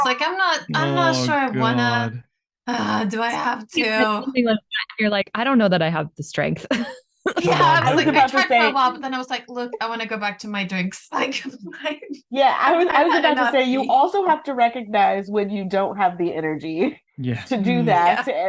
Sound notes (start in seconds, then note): 7.2 laughs; 11.3 laughs